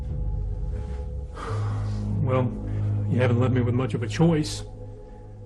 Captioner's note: sighs